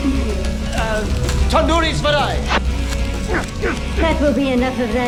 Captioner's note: speaking foreign language